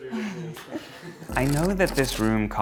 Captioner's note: laughs